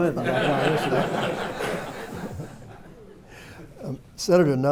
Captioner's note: laughter